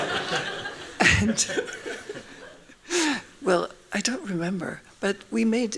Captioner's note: laughing; laughs